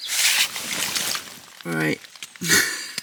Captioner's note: water floods into tent; laughs